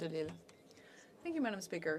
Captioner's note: speaking French